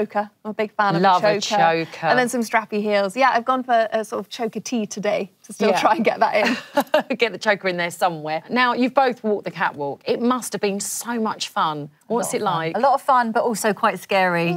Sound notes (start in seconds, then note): 7.2 laughs